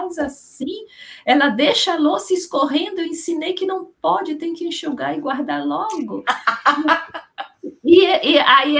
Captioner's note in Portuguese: risadas